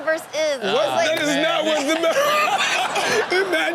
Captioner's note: laughs